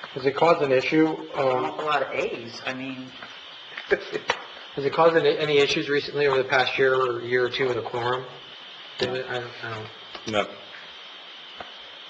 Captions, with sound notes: - Does it cause an issue? - Well that's an awful lot of A's, I mean ... (chuckles) - Has it caused any issues recently over the past year or year or two in the quorum? - I don't know. - No.